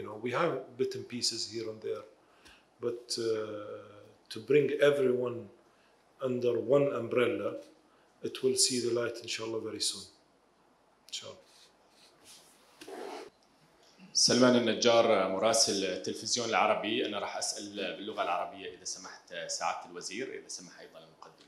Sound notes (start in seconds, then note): 9.4 speaking in foreign language